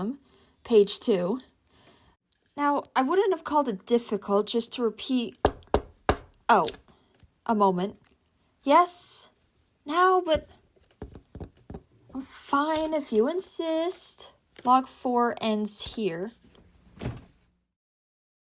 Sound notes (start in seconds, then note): 5.4 knock knock knock